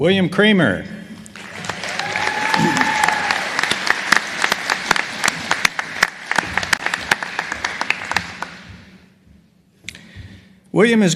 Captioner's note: applause